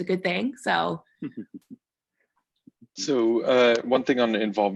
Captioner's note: laughing